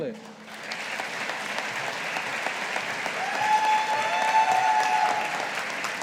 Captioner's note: audience applauding